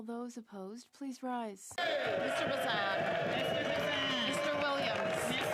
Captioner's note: speaking French